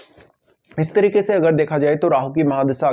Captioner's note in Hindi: नाक से की जाने वाली आवाज़